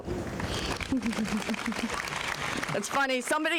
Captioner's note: applause